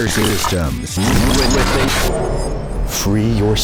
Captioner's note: digital Glitching